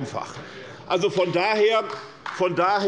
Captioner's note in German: Beifall bei Abgeordneten der SPD und der LINKEN